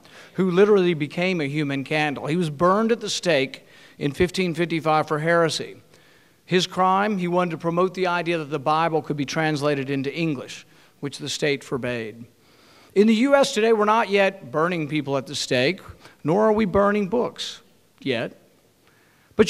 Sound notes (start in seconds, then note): none